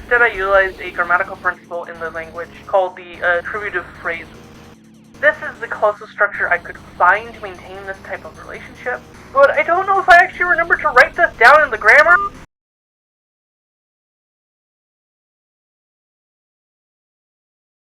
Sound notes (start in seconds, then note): 12.3 phone call ends